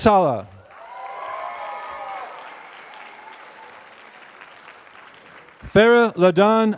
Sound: applause

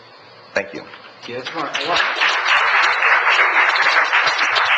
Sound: audience applauds

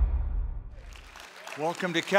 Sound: applause

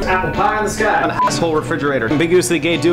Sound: Pitido

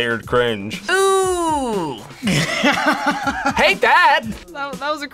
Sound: laughs

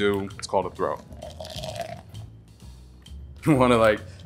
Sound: liquid splashing

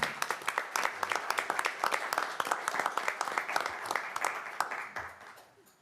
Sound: applause

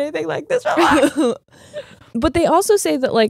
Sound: laughing

